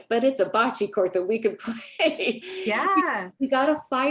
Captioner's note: laughs